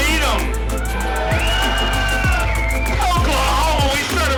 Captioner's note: cheering